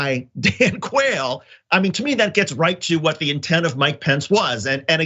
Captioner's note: laugh